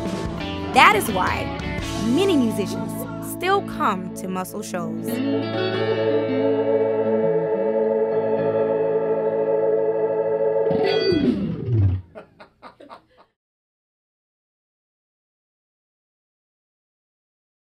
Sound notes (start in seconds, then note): 5.2 rock music ends; 11.8 laughing